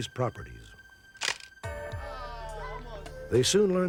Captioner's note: camera clicks